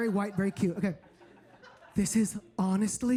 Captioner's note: audience laughing